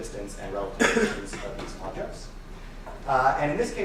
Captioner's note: participant coughing